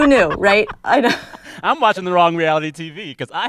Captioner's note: laughter